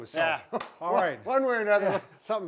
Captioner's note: chuckles